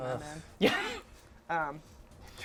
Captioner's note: laughs